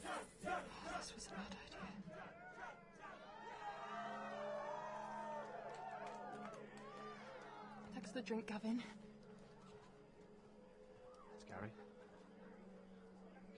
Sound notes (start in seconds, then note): 2.1 crowd cheering and clapping